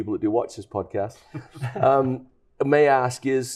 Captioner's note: light chuckling